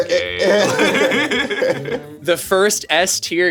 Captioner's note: streamers laughing